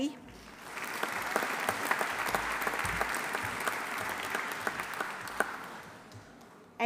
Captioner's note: audience applauding; audience cheering